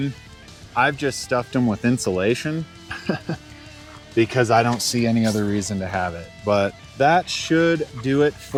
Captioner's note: laugh